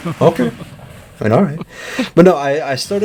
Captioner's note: laughing; still laughing